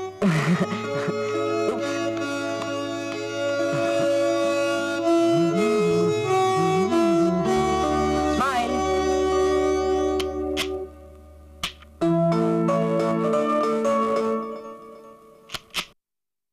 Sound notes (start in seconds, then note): 0.2 chuckles; 10.0 camera clicks